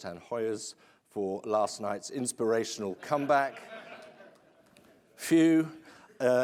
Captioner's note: laughter